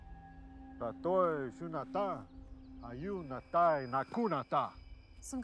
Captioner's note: speaking in foreign language